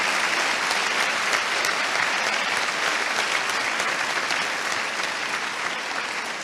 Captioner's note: applause